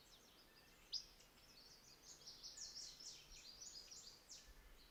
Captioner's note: birds chirping